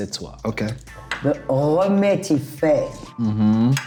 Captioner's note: speaking in French